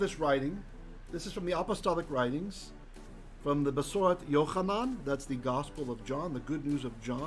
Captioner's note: Hebrew